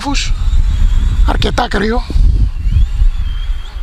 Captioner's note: wind